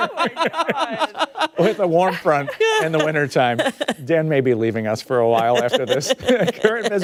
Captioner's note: laughter